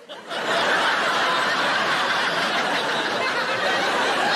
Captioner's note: audience laughing